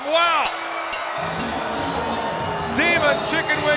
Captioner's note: bell ringing